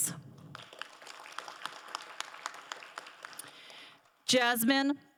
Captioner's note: crowd applauding